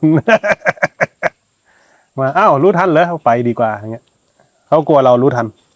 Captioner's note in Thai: เสียงหัวเราะ